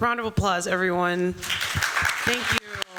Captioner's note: applause